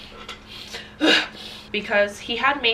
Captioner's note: loud sigh